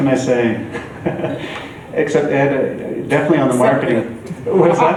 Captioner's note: chuckles